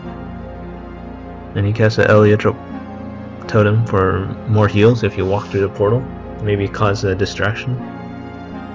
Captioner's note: distorsion